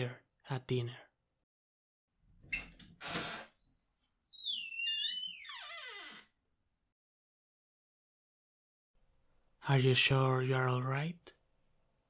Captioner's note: sound of opening the door